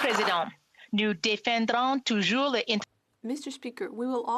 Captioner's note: applause